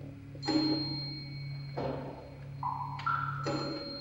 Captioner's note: bell ringing, drums tapping slowly